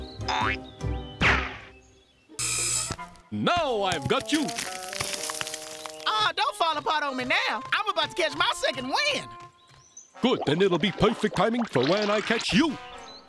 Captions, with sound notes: (fence buzzes) NOW I'VE GOT YOU. (crumbling) AW, DON'T FALL APART ON ME NOW! I'M ABOUT TO CATCH MY SECOND WIND! GOOD. THEN IT'LL BE PERFECT TIMING FOR WHEN I CATCH YOU.